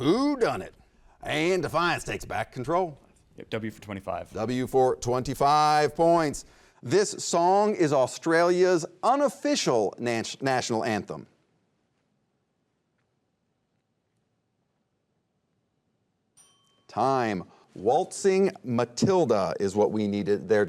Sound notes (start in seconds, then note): 16.4 bell chimes